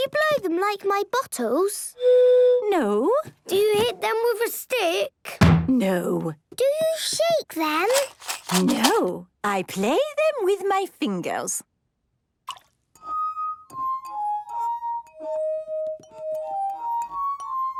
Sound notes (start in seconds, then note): 2.2 blows note; 12.5 glasses vibrate melodically; 12.5 water drips